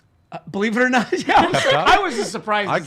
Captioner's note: laughs